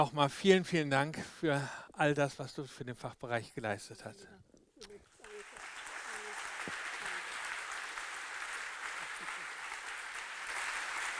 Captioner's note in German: applaus